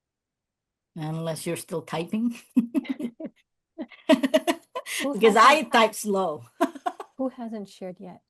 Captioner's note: laughs